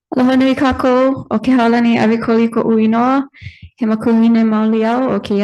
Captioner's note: speaks in foreign language